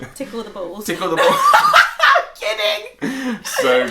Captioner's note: laughing